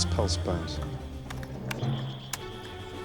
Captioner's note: keys clack